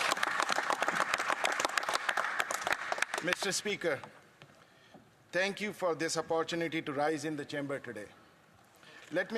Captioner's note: some Applause